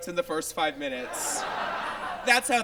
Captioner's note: audience laughs